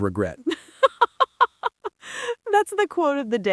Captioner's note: laughs